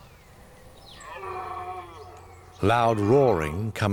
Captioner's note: deer roaring